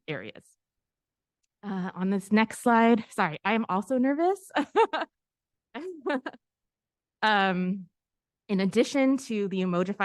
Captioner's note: giggle